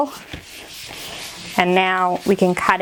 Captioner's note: hand scraping